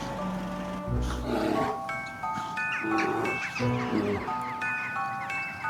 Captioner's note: bear growls